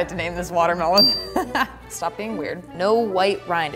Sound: laughing

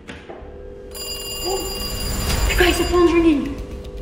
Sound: phone Ringing

